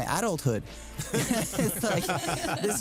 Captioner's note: laughter